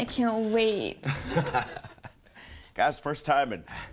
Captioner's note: client laughs